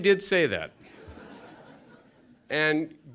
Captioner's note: laughter